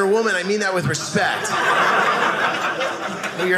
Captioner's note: audience laughing